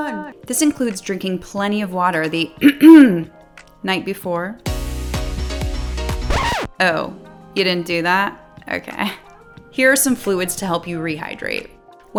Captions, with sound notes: This includes drinking plenty of water the (coughs) night before. (lively pop music) (record scratches) Oh, you didn't do that? Okay. Here are some fluids to help you rehydrate.